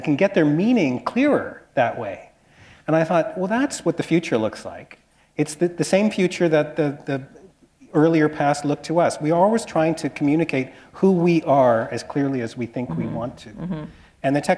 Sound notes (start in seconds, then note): none